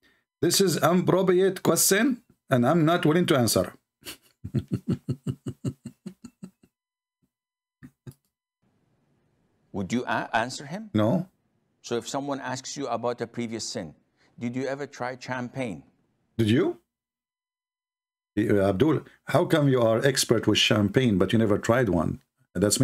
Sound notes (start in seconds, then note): 4.4 Ketawa